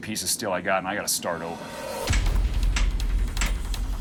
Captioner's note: hammering